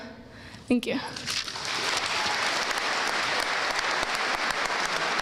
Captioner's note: audience applauding